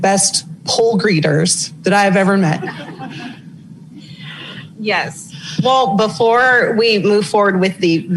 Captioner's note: laughing